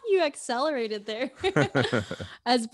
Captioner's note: laughs; laugh